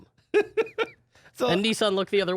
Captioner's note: laughing